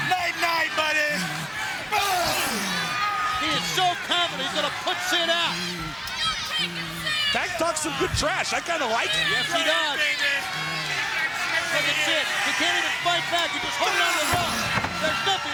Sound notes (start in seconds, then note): 1.9 Sid grunting; 10.4 crowd cheering; 11.7 Tank faintly speaking; 14.0 body thudding